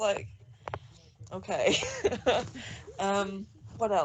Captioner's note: laughs